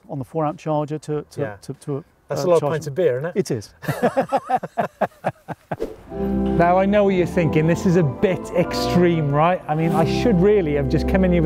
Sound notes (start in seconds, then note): 3.8 both laughing